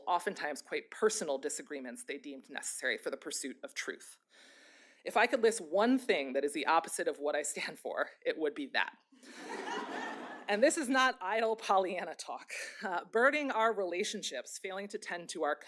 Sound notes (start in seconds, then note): 9.3 laughter